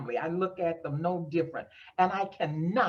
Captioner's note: none